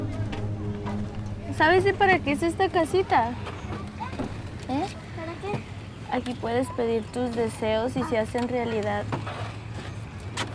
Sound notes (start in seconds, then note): 2.0 Spanish